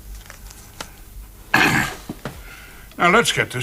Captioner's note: clears throat